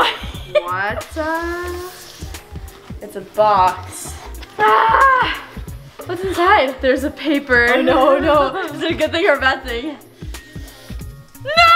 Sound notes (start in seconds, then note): 0.0 laughs; 3.7 groans